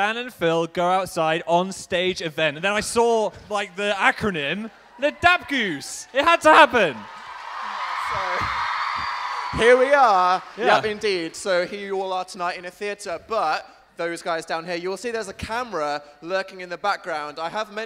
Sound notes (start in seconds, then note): 6.6 audience Cheering